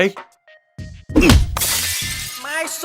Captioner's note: smash